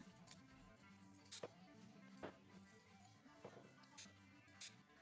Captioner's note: scissors clipping